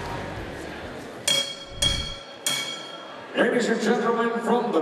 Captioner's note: bell ringing